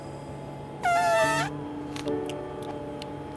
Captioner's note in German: Elefant trötet